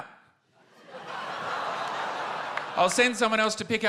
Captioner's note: laughter